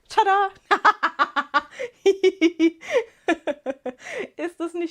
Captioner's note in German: Gelächter